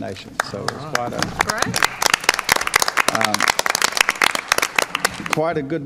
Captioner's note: applause